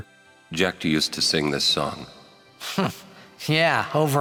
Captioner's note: scoffs